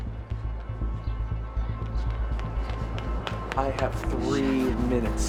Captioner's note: footsteps clacking